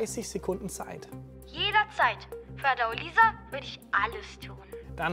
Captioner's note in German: über Telefon